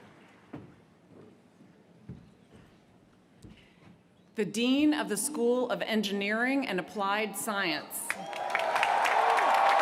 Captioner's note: applause